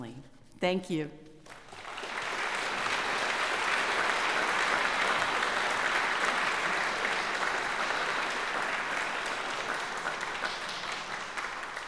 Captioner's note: applause